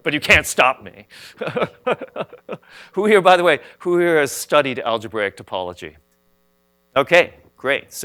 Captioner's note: laughs